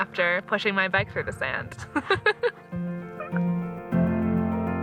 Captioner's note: both laughing